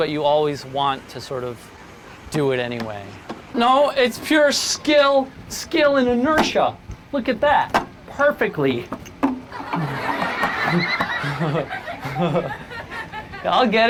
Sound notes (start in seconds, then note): 9.4 audience laughing; 11.8 chuckling